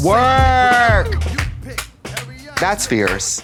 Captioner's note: Trixie claps